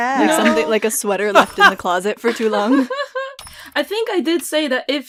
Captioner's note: laughter